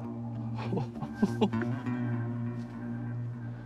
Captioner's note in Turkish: Gülüyor